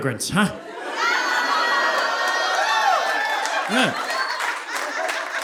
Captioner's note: audience laughing